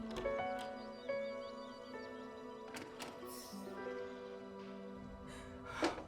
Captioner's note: birds chirping; door clicks